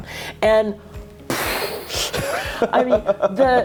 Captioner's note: puffing